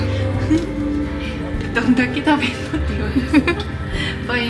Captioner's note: laughs